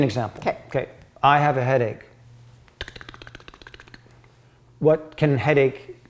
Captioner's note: making clicking sounds